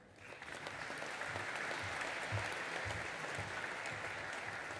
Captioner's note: audience applauding